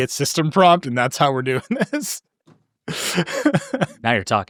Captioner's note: chuckles